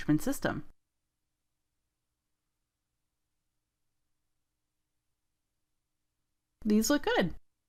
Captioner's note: silence